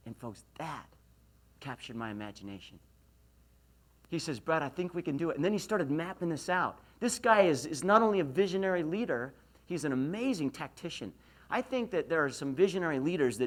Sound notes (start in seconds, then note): none